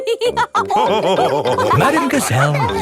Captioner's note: all laughing